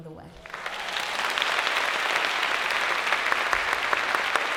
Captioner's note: applause